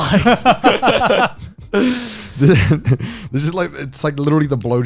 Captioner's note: all laughing